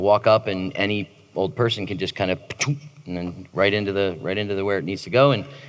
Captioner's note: implant sound